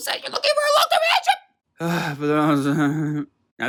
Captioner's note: sounds of internal death